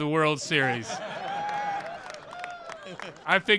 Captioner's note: laughter